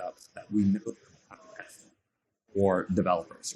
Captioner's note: faintly speaking